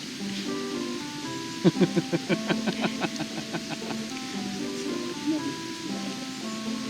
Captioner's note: laughs